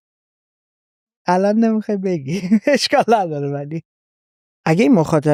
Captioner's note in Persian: خنده